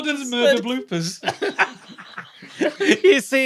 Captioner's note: group giggles profusely